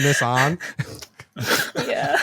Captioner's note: laughter